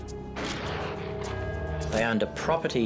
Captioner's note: camera shutter click